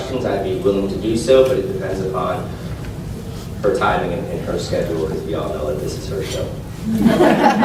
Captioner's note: laughs